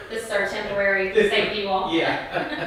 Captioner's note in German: Mutter; Vater und Mutter kichern